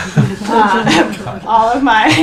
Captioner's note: laughing